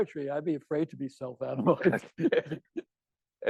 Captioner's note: laughing